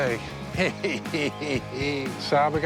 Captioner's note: chuckles